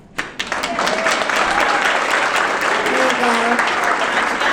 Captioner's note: audience clapping